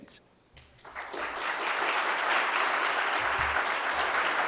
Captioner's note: audience claps